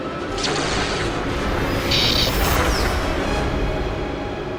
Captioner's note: intense music; laser shooting